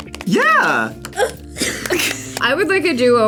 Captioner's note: both laugh